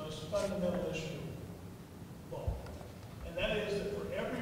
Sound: speaking quietly

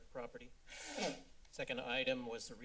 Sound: blow nose

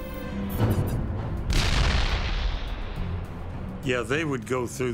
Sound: dramatic ominous instrumental music; cannon shots exploding

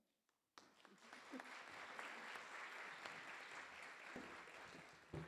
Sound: audience applause

